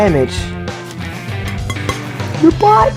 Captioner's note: soft clanging